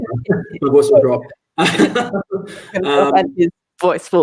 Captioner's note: both laugh